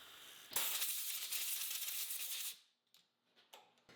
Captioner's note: water spraying